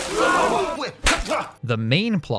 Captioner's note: splash, gasp; slap